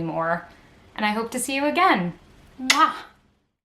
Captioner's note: mwah